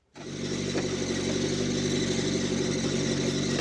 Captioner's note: engine rumbling